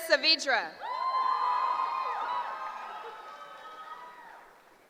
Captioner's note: cheering